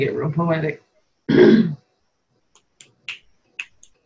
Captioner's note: clears throat; snapping